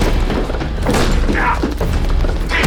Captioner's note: gunshot